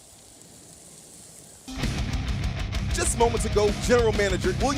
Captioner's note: sizzling